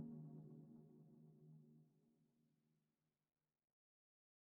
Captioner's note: silence